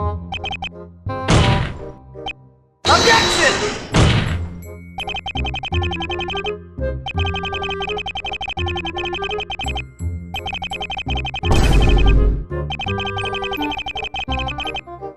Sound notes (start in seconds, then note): 1.3 angry desk slam again; 3.8 confident desk slam